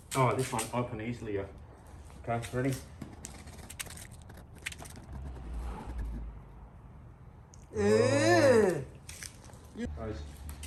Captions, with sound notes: Aw, This one's opening easier. Okay. Ready? (grunting) Hose.